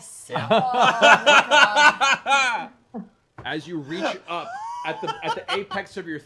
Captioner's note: laughter